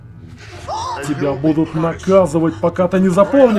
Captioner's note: lolani shrieks